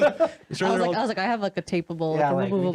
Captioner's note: laughing